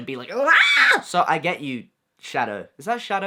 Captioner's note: screams